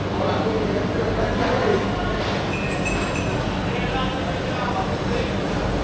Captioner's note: crowd chattering